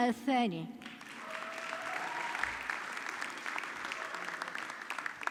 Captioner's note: audience clapping